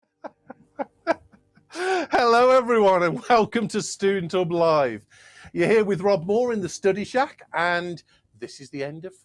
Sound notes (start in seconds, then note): 0.3 laughing